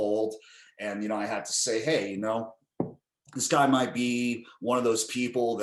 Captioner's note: slams table